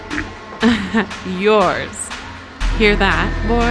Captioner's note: laughing